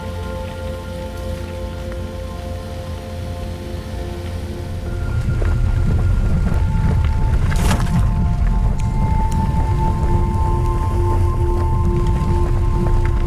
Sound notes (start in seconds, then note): 0.0 sound of driving on a wet gravel road; 7.5 splash!